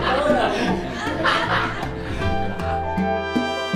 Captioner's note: laughter